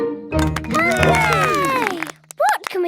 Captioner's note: all cheer